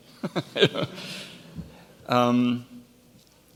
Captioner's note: laughs